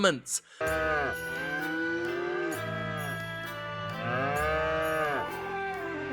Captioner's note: gentle music; cows mooing